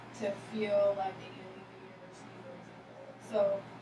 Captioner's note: speaking softly